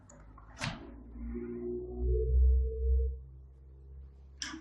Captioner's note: low woosh